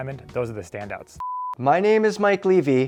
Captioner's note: beep